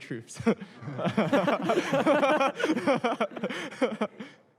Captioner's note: laughter